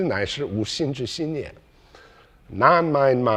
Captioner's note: speaking in foreign language